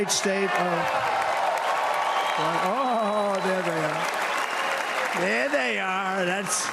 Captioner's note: cheers and applause